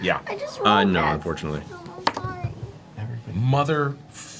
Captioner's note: tearfully